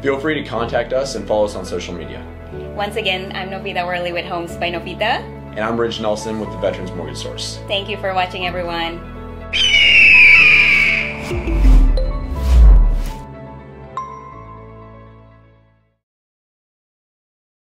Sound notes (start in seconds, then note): 9.5 eagle cawing; 11.3 bright music